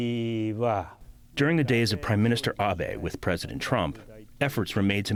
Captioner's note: through translator